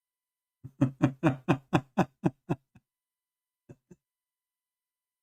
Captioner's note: Ketawa